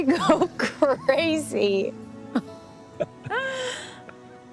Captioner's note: laughing